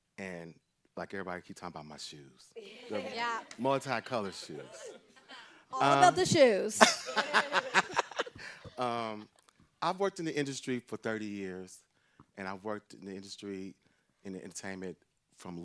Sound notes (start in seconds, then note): 4.0 group laughs; 6.8 laughs